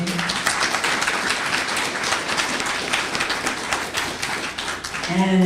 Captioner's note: applause